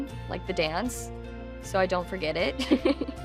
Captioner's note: chuckles